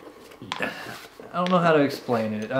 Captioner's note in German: seufzt